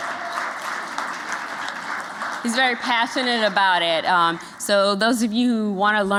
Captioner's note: applause